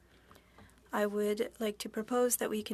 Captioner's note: speaking French